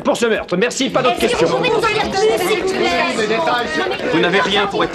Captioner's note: all clamoring